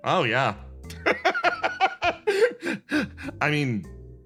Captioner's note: laugh